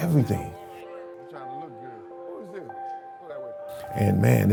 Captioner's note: gentle music continues; speaking faintly